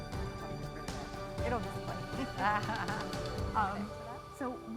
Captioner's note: uplifting music; chuckles; laughing